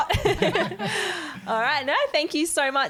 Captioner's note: all giggling